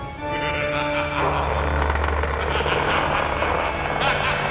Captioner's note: phantom laughing